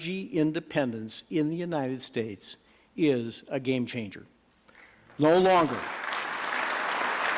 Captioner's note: applause